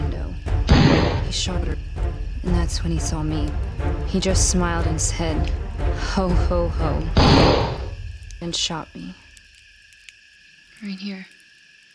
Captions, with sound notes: (Dramatic Music Plays) He shot her. And that's when he saw me. He just smiled and said, "Ho-ho-ho," (Gunshot Ringing) and shot me... Right here.